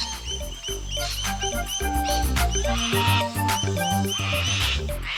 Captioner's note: bird sounds